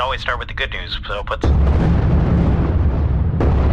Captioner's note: explosions